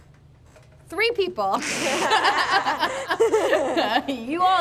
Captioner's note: laughs